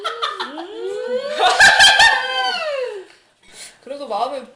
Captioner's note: laughing